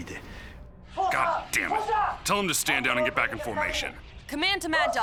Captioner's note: in English